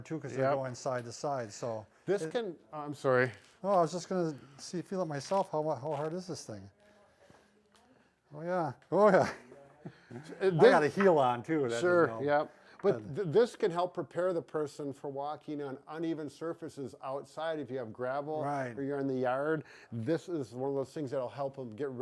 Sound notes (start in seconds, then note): 9.2 in a wobbly tone